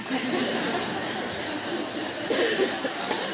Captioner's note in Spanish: Risas